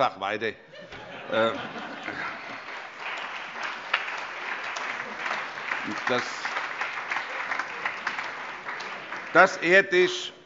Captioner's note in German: Heiterkeit und Beifall